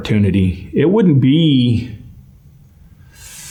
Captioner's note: sigh